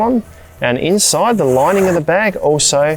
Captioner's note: zipper undoes